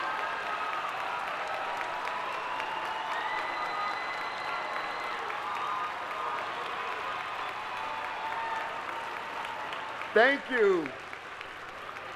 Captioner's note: applause